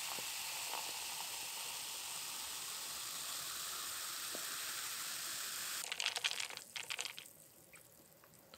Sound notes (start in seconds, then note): 0.1 bubbles